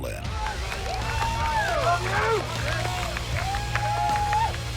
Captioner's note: crowd cheering